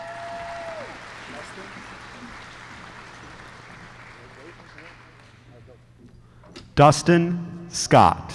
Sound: applause

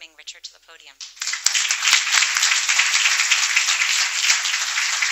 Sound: applause

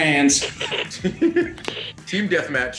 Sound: laugh

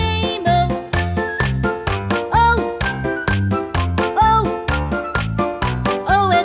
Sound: clap

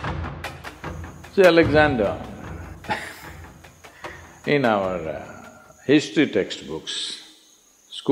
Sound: laughs

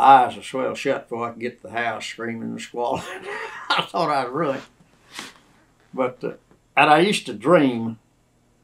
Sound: laughs

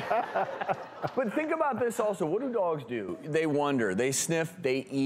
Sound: audience laughs

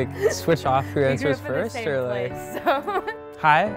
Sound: chuckles

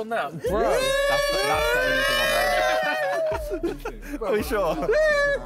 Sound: all cheering

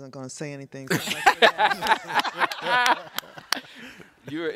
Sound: laughter

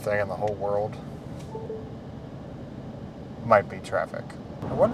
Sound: device chiming

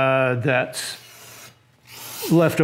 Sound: spraying

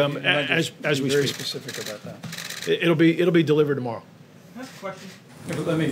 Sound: cameras clicking

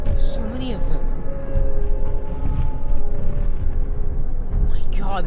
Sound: sirens and Rumbling

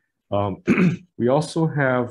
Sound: clears throat

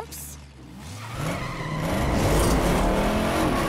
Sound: tires squealing

